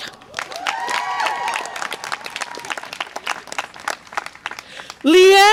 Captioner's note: audience applause and cheer